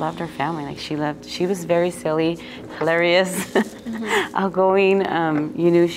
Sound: laughs

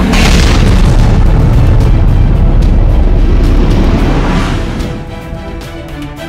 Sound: rocket sounds; action music

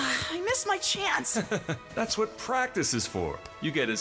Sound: chuckles

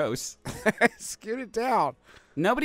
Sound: chuckling

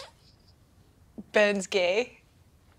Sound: scoffs

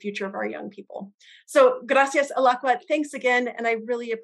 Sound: non-english speech

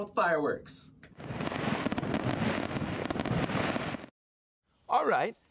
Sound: fireworks booming

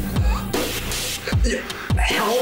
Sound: Derek choking

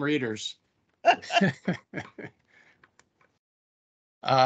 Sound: laughter

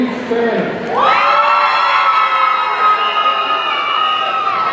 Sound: audience cheering

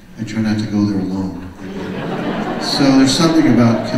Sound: audience laughs

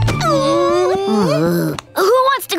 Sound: groaning

